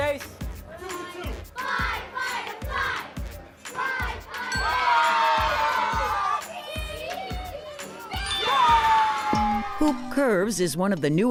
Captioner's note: cheering